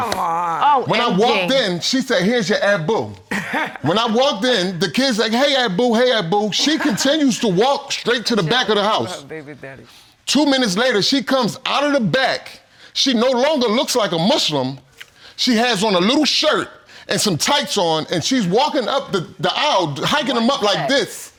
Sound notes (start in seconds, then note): 1.6 laughs